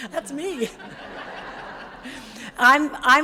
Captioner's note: audience laughs